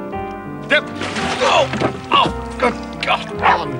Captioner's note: both exclaiming